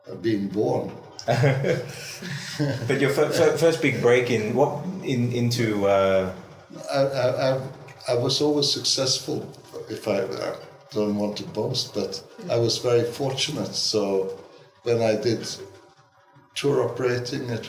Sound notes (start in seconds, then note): 1.2 laughter